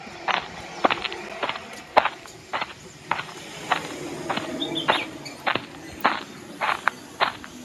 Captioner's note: foot sound